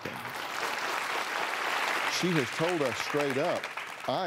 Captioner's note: applause